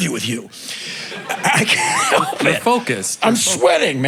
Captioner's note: crowd laughing